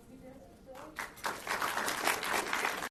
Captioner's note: audience applauds